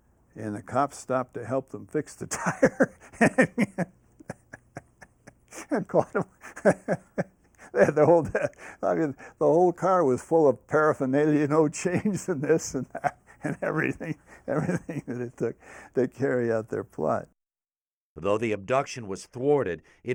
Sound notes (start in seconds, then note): 4.2 laughs